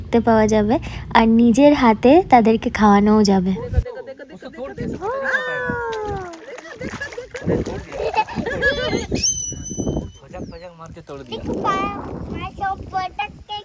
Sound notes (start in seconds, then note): 5.1 loud laughter